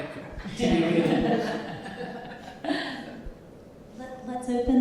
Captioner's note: panelists chuckling